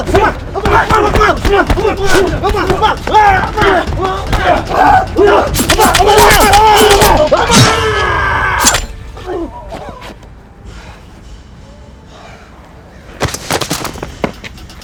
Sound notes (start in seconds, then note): 6.3 knife slicing and stabbing